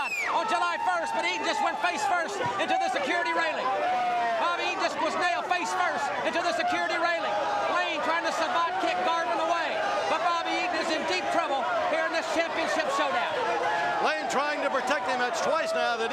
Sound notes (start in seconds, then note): 10.9 crowd chatter